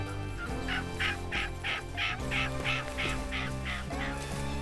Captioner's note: turkey calling